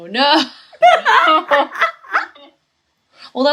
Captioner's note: pained laughter